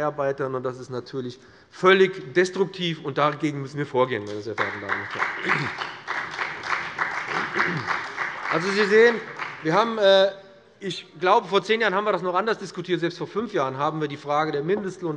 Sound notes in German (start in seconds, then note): 4.5 Beifall bei dem BÜNDNIS 90/DIE GRÜNEN und der CDU